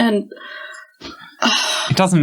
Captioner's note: sighs